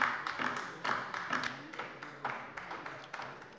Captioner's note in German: Beifall bei der LINKEN